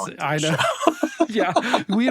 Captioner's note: laughing